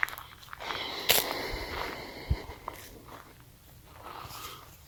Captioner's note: sighing